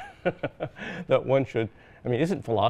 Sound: laughs

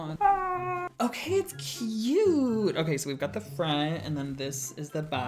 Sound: scream

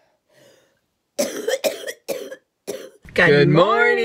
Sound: coughing

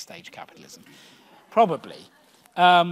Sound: audience laughs

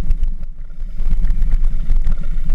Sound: engine sounds

